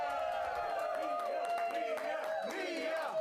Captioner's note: audience cheering